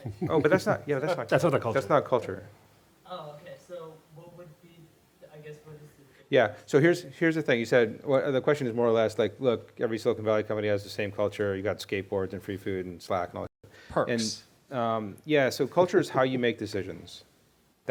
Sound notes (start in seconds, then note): 3.2 voiceover